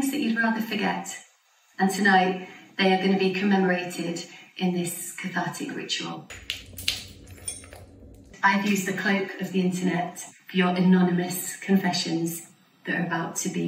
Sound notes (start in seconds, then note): 6.4 slightly distorted sound. sound of walking in glass